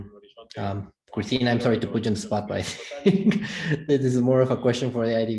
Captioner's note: giggles